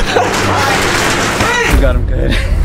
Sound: door rattles; laughs; chuckles

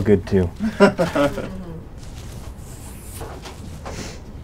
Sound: laughter

